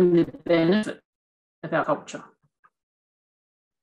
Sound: distorted sound

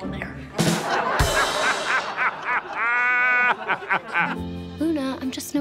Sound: laughing

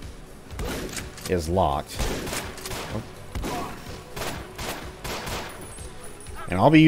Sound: gunfight continues

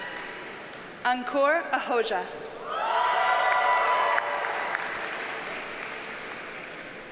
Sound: audience cheers and applauds

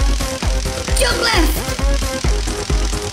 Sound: electricity crackling

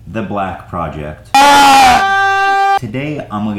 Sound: screams

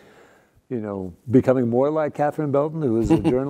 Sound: laugh

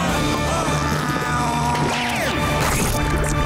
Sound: grunting

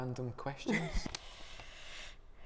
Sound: laughing

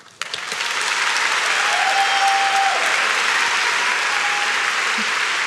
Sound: audience shouts and claps

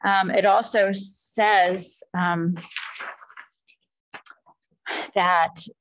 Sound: pages rustling

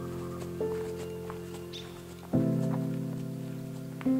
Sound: footsteps crunching

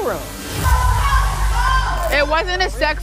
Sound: shouting

